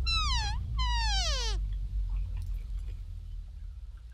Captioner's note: animal call